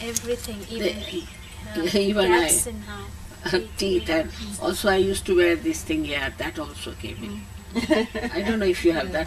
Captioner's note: laughter